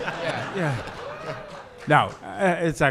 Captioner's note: excited whooping